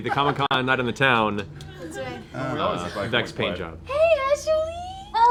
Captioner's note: gasps